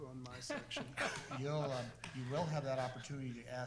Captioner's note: board member laughs